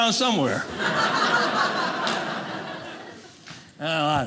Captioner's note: audience laughing